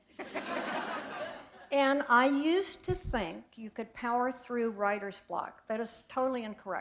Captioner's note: laughter